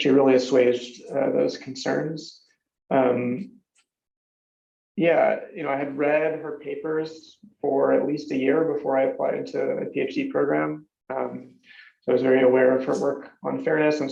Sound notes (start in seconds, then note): none